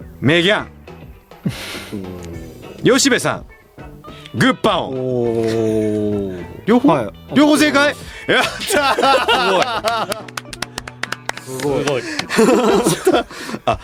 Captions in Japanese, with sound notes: [鼻息] 吉部さんグッパオン。 おお。 両方 両方正解。やった。[笑い] すごい。 すごい。 すごい。